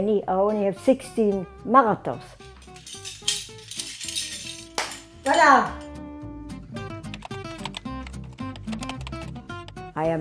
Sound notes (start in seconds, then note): 2.5 medals clanking; 7.1 fingers typing